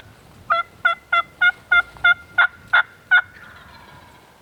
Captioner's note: turkey calling